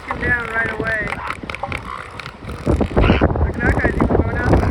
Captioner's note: elephant seals snorts and squawks